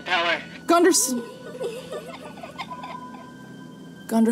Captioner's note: child giggles